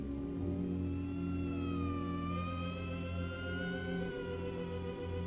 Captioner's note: siren blaring